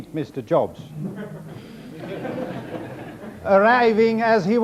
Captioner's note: audience laughs